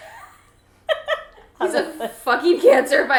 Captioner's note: laughs